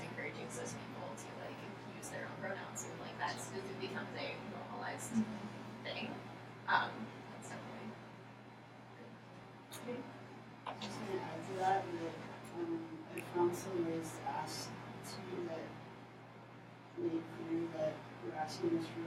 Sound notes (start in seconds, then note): 10.8 speaking off microphone